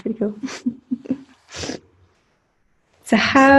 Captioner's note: giggling